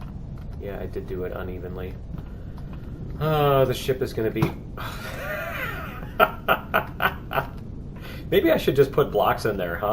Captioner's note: sighs; laughs